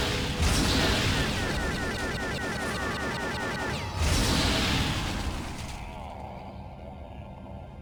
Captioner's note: explosion; explosion